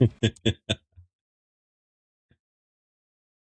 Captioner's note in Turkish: kahkaha